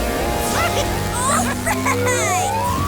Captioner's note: Crusher laughs